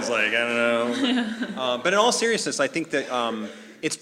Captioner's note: laugh